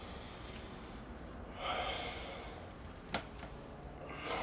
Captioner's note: sighing